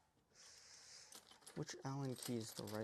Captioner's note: breathes in